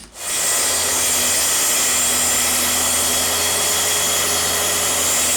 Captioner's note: drill whirring; circular saw whirring